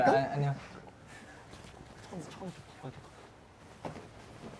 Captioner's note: whisper